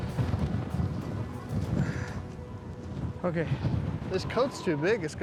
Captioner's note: wind blowing